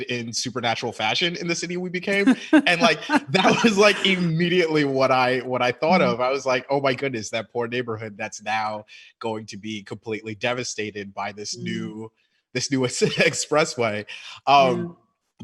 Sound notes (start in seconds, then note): 2.0 laughing; 3.5 chuckles; 12.6 chuckles